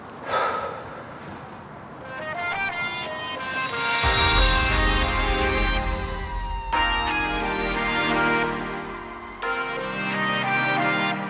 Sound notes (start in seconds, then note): 2.4 fire engine sirens; 7.4 upbeat music